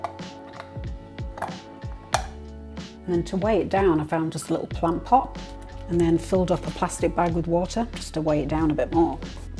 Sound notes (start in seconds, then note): 2.1 pop